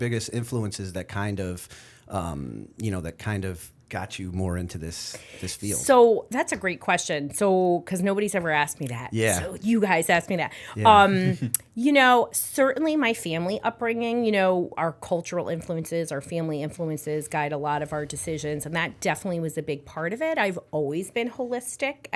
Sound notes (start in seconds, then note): 11.2 chuckle